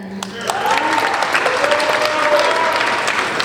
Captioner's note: applauding